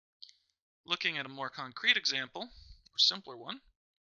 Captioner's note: voiceover